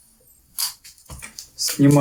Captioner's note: треск